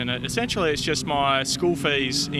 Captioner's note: none